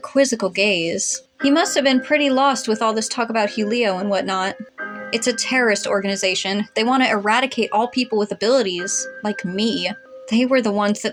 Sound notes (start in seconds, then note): none